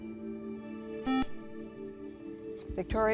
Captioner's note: buzzer